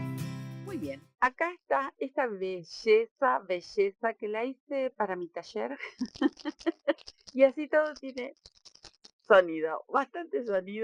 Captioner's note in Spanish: risas